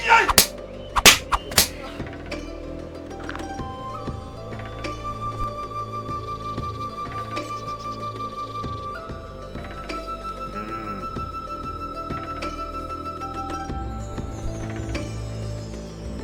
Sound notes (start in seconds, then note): 0.1 master yelling; 0.9 stick smacking